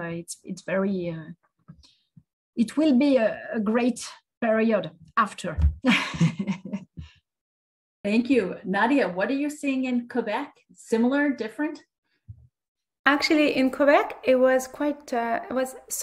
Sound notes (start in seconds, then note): 5.9 laughs